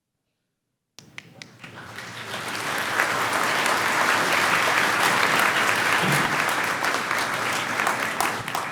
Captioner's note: clapping